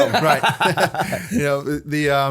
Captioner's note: laughter